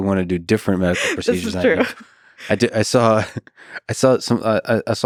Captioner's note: chuckles